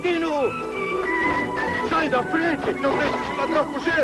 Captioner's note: shouting